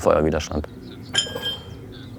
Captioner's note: clattering